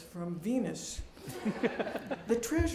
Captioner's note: laughter